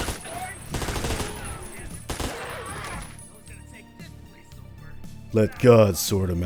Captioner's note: background Vulture chatter